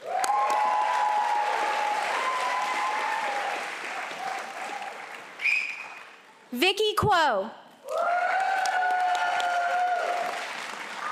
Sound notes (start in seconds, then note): 0.0 applause and cheering; 7.8 applause and cheering